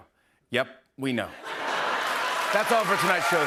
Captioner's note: laughter